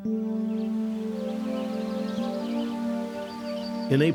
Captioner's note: birds chirping